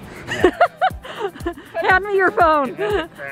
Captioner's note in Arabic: يضحك